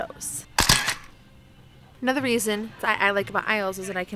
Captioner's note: camera shutter